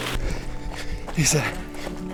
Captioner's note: heavy breathing